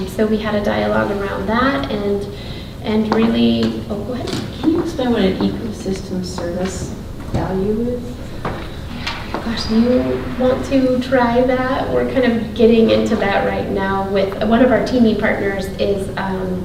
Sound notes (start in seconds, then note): none